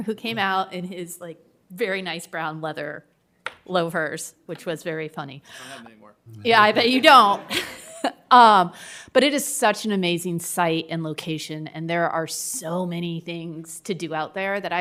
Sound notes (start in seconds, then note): 6.3 laughs